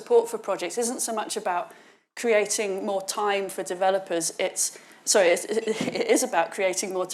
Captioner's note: chuckles